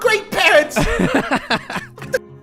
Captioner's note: laughs